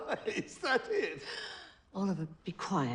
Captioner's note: laughing